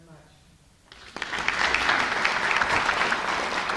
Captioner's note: applause